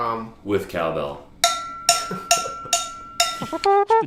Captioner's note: cowbell clanking; imitating horn